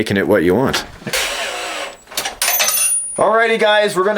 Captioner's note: whirring